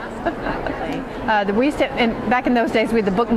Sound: chuckles

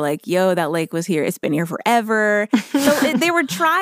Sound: laughs

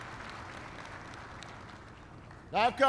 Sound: applause

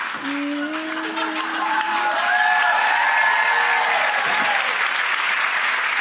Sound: audience clapping and cheering

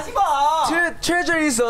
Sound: speaking in Korean

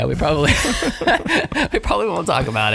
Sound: laughing

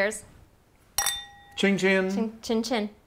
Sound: glasses clink

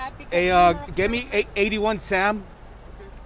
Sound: deputy speaking to radio

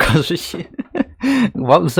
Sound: laughs

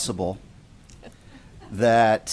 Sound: laughter

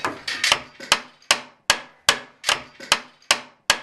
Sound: hammering

